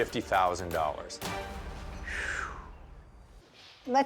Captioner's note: exhales slowly